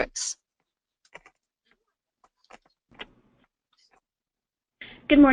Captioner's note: silence